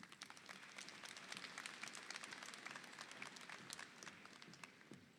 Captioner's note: audience applauding